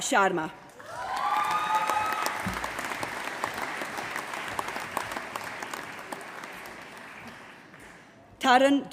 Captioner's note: applause